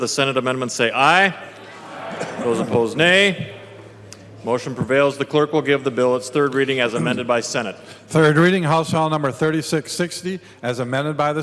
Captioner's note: chorus of ayes